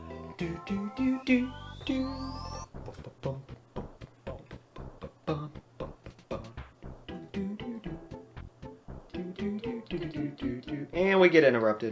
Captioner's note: doot, dooting; bump, bumping